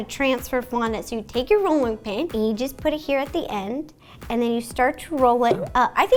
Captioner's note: bloop